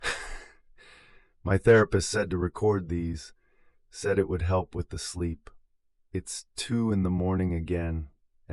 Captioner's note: sighs